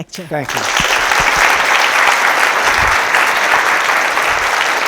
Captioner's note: audience applauding